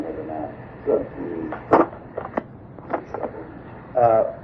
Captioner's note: tape breaks